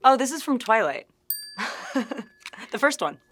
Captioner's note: graphic chiming; chuckling